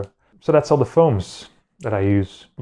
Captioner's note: none